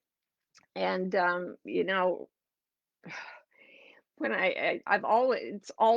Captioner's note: sigh